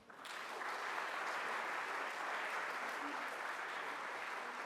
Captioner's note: audience applauds